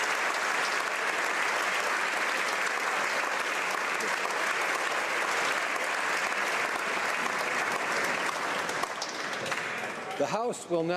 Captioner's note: applause